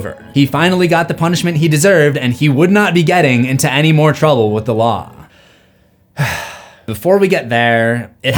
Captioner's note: sigh